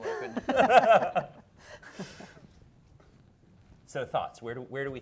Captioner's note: laughing